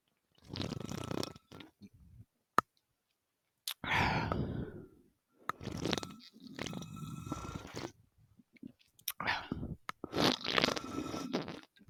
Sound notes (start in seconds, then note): 5.5 slurp 6🤪🤭; 10.0 slurp 7🤪🤭